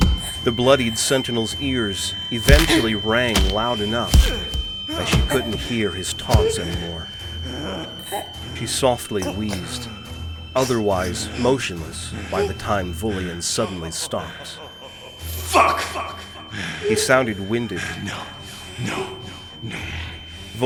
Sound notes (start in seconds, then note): 13.9 echoey laughter; 15.1 realization hitting, word echoes